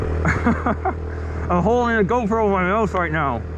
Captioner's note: laughing